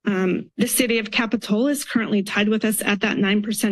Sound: none

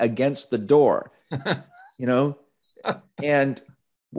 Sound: laughing

